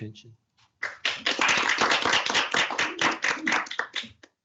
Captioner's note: audience clapping